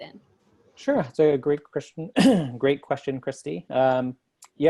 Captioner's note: cough